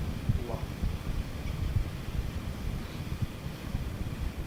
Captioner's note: wind blowing